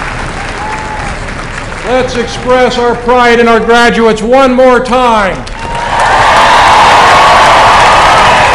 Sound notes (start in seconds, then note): 5.5 applause